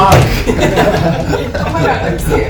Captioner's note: people laughing